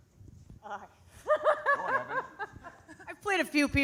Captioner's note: laughs